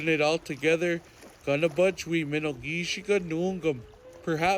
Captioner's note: speaking Ojibwe language